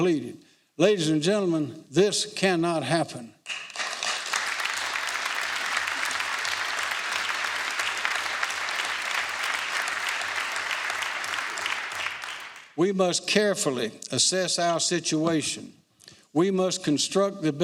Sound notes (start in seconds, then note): 5.7 applause